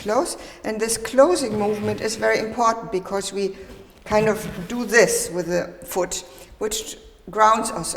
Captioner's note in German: schleifend